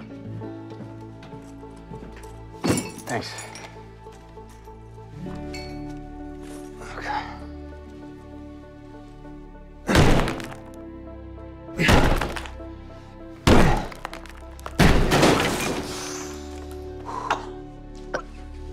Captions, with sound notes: [mallet clatters] - Thanks. Okay. - [blows] - [coughing]